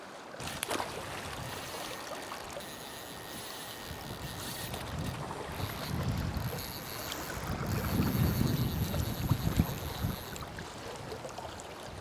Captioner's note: water splashing; line whining